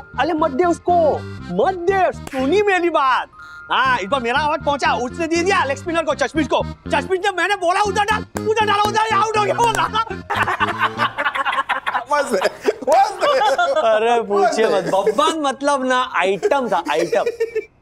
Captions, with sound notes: But don't let him. He listened to me. He heard my advice and let four eyes, the leg spinner bowl. The four eyes did it as I said. And he bowled the other one. [laughs] It was amazing. Don't say anything. Babban was hilarious.